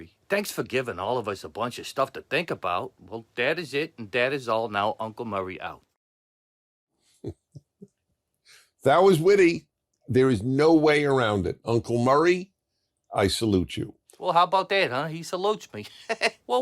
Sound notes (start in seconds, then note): 7.1 chuckles